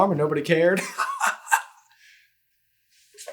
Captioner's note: hearty chuckle